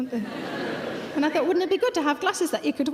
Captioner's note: audience laughing